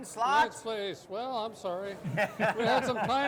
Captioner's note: all chuckle